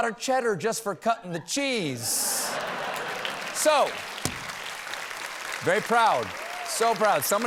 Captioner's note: laughter